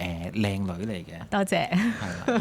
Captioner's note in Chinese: 眾人笑